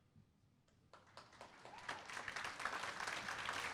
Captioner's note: applause